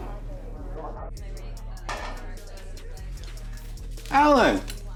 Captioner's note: people chattering